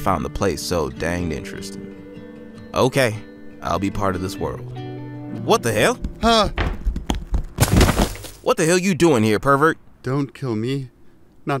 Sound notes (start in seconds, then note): 6.4 footsteps running; 6.4 bodies crashing